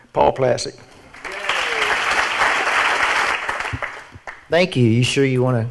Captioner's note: audience applauds